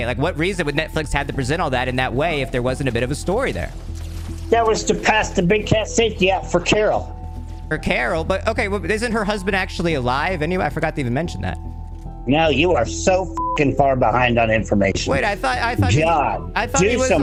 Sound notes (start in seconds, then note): 13.3 beep